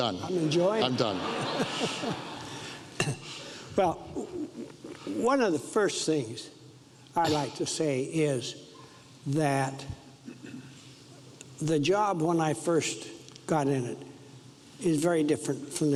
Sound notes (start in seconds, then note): 0.7 audience laughs